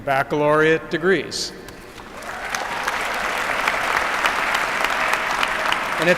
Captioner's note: applause